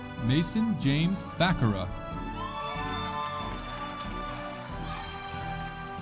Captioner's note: audience applauding